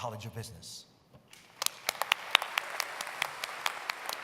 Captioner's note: applause